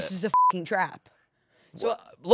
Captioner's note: beep